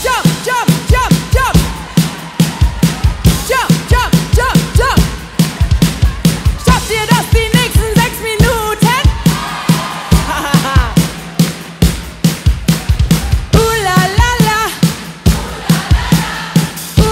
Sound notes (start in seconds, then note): 6.7 speaking in foreign language; 10.1 laughing; 12.8 upbeat rock music continues